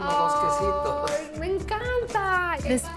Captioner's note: speaking Spanish